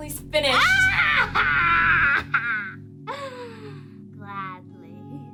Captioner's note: laughing